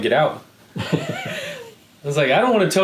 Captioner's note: laughing